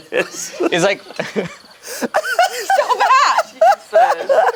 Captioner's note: group laughing